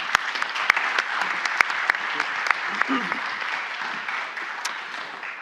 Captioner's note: audience applauds